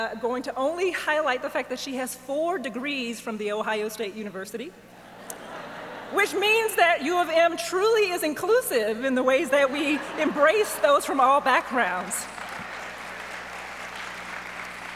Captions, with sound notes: the fact that she has four degrees from the Ohio State University. (audience laughs) Which means that U of M truly is inclusive in the ways that we embrace those from all backgrounds. (audience applauds)